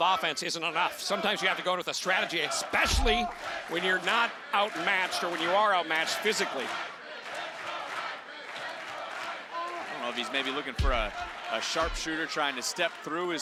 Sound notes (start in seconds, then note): 5.3 crowd chants "Let's go Mike"